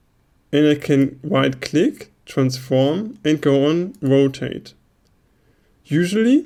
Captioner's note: right click